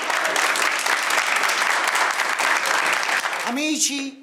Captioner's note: applause